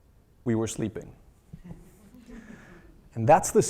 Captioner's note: laugh